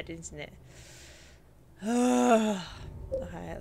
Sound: big sigh

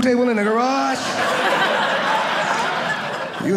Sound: audience laughing

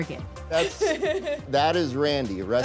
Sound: laughs

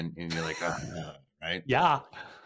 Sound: laughs

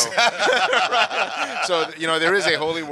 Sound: all laughing

